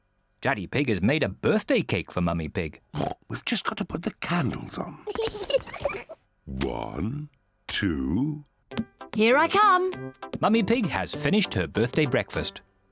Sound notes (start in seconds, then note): 2.9 oinks; 5.1 both laugh